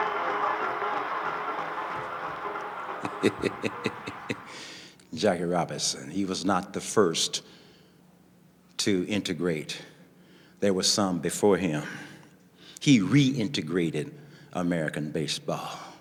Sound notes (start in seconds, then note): 2.8 laughing